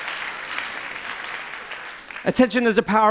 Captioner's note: applause ends